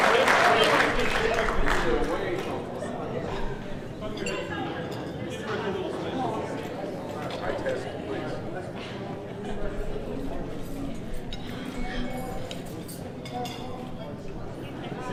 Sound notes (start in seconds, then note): 2.8 people murmuring